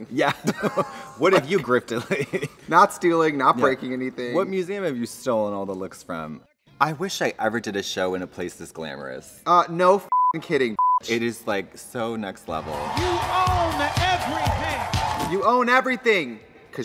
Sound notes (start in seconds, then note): 10.7 beep